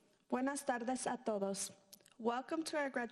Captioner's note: speaking in foreign language